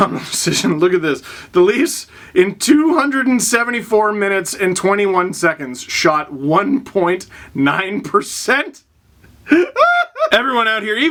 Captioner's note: laugh